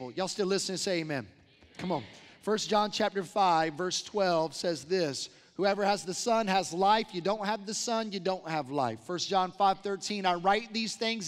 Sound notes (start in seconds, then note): 1.8 crowd responds